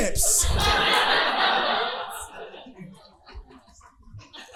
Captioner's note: audience laughing